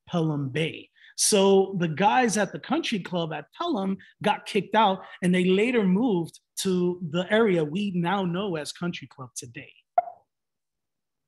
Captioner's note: notification sound